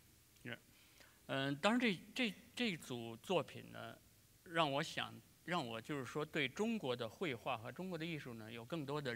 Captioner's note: speaking in Chinese